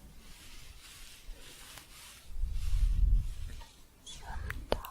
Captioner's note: scratchy shuffling